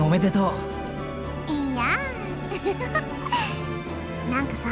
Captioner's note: laugh